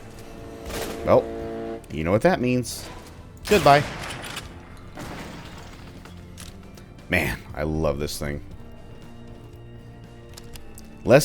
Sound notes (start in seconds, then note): 0.5 Railgun chargeup; 4.8 bam